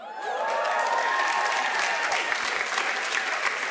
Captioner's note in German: Lauter Jubel